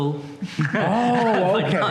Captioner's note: laughter